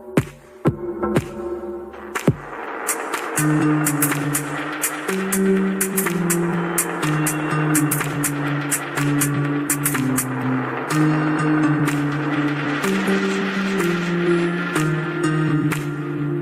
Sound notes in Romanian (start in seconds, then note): 2.4 Aplauze